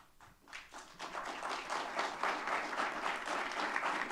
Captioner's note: audience clapping